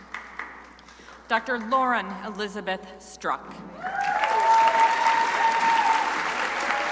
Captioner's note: crowd applauding